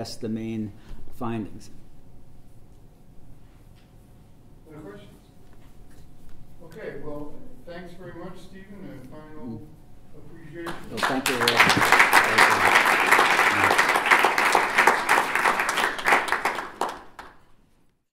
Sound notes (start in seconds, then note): 10.6 claps